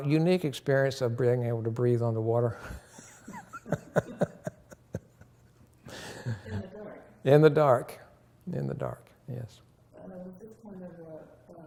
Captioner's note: laughter